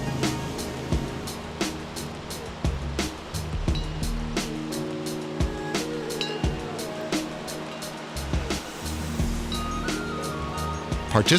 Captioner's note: bell ringing